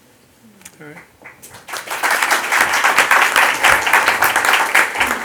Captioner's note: audience applauds